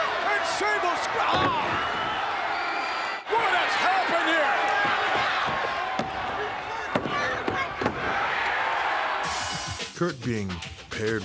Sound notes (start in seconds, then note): 4.3 applause